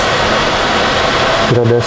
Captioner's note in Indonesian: suara mesin